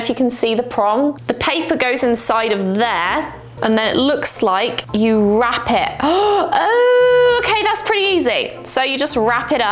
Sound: gasps

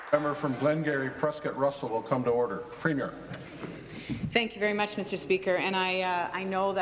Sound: applause

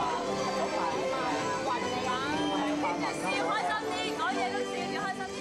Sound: overlapping chatter

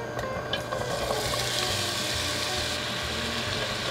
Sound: sizzling

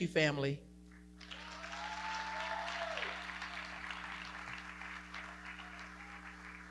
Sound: audience cheering and clapping

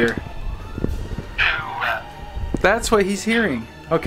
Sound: monster chanting

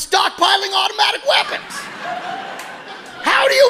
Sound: audience laughing

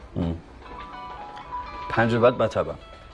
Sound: mobile ringing

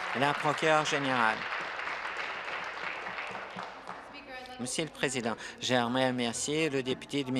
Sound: applause

